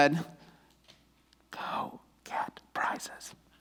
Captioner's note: whispers